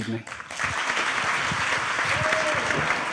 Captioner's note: applause